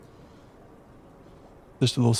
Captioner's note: silence